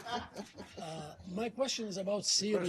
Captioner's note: laughter